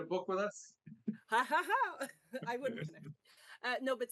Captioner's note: laughs